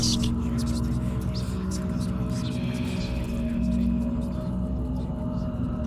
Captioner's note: whispers